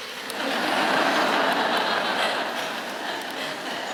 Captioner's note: laughing